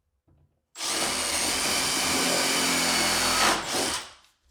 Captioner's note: drill whirring